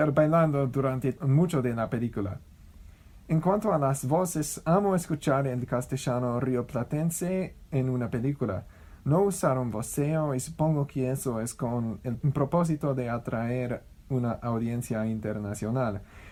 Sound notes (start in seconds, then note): 6.8 Argentine Spanish